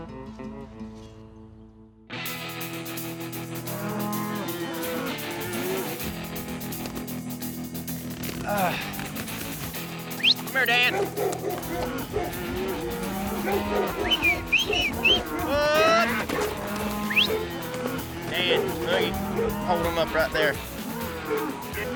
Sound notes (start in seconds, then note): 0.2 cattle mooing; 7.7 whistle; 9.1 dog barking; 12.1 cattle mooing; 13.0 whistling; 18.8 cattle mooing; 18.8 dog barking